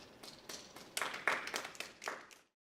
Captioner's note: applause